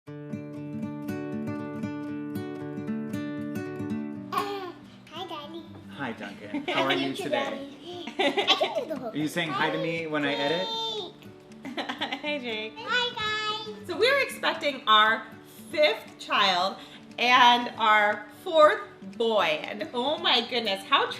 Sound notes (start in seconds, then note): 0.3 soothing acoustic guitar music; 7.9 laughing